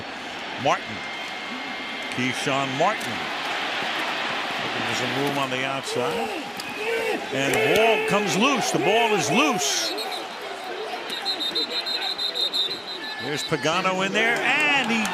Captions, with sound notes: back by Martin, Keshawn Martin. There's a room on the outside. And ball comes loose. The ball is loose. [whistle blows] There's Pagano in there.